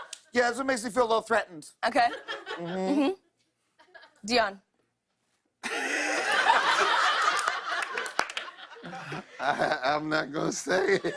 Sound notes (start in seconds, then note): 0.0 laughter; 5.6 laughs